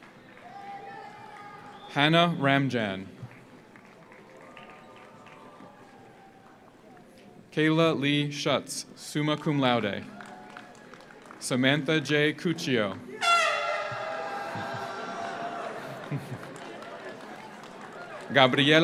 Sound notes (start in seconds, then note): 0.0 audience applauds; 0.0 audience cheers; 3.2 audience applauds; 10.0 audience applauds; 10.0 audience cheers; 13.0 audience cheers; 13.1 horn blares; 16.0 audience laughs